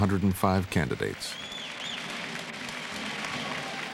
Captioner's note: cheers and applause